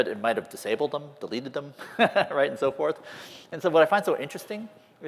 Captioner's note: laughter